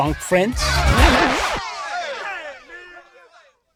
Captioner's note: record scratch